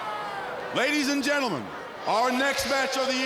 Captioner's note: crowd chatter